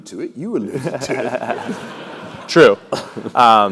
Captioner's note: laugh